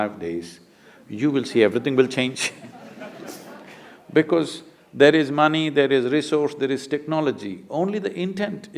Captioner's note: laughter